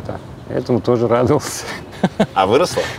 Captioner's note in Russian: смеётся